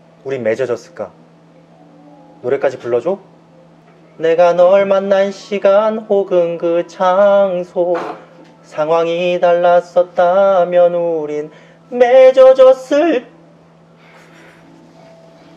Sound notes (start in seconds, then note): 7.9 clearing one's throat